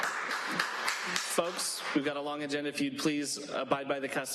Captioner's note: applause